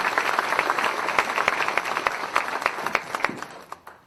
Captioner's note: applause